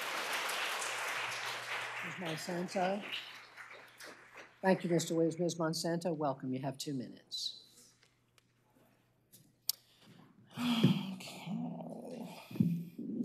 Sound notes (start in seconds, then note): 2.5 applause